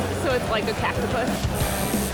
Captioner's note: tattoo needle buzzes